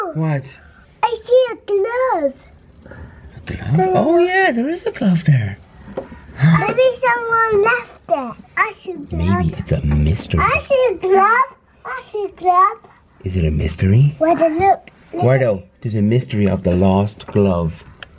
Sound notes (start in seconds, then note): 9.8 whisper